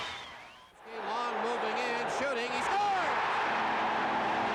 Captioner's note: cheering